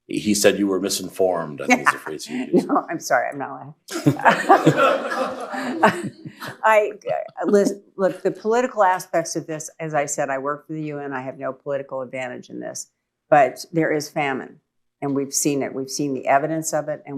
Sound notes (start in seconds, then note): 1.6 laughs; 3.9 laughter